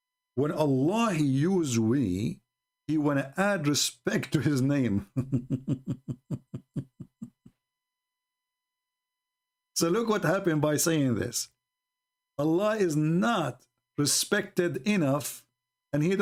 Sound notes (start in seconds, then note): 5.0 Ketawa